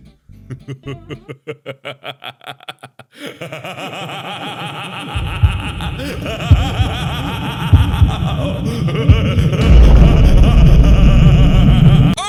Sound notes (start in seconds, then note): 0.3 demonic laughter; 3.1 demonic Laughter echoes